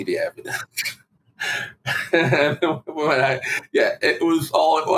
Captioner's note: laughing